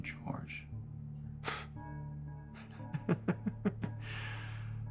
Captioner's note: Bailey laughs